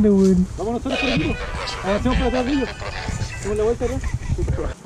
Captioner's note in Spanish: Sonido Radio FM